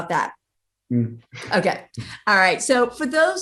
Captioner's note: chuckles